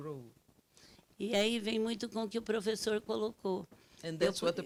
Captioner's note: speaking Portuguese